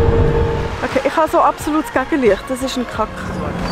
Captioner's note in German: auf Schweizerdeutsch